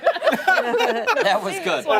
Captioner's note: laughter